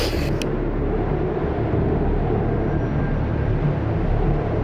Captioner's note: loud wind